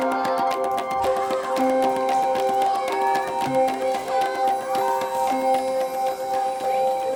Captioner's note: children chattering; gentle music continues